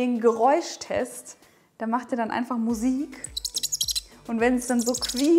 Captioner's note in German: Spargel quietscht